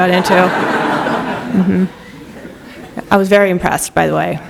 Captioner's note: laughter